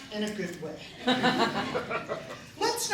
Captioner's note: laughter